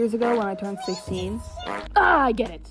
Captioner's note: fart sounds, pleading